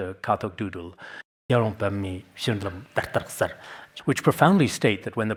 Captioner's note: citing scripture in Tibetan